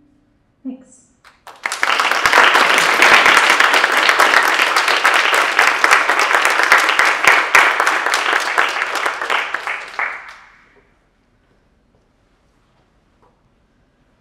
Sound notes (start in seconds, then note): 1.5 audience applauding